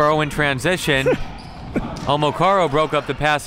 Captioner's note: laughs